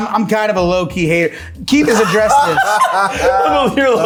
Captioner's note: everyone laughing